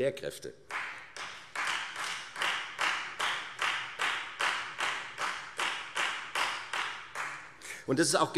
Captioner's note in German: Beifall Freie Demokraten